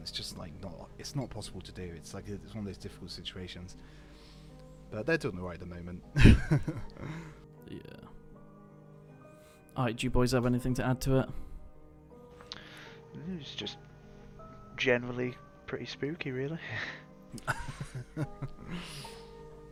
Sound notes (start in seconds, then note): 17.3 laughs